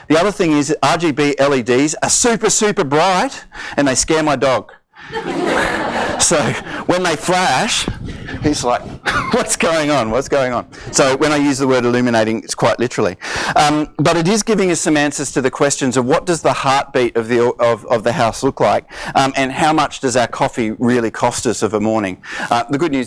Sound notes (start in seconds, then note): 5.0 audience laughs